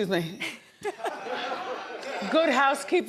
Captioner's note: audience laughing